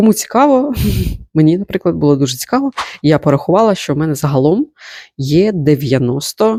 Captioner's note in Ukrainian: сопіння